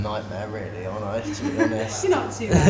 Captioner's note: laughter